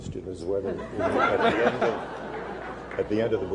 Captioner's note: laughter